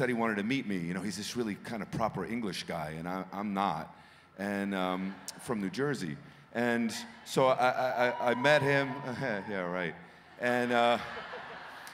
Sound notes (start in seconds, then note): 9.7 cheering; 10.6 chuckling